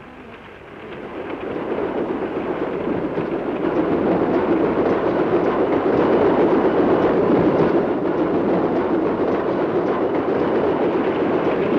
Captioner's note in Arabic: صوت خشخشة القطار; هدير القطار